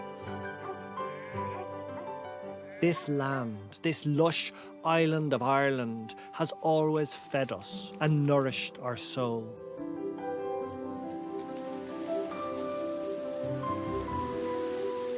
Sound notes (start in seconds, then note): 10.1 reeds rustling